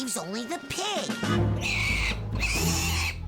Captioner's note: squealing